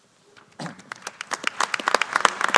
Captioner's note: applause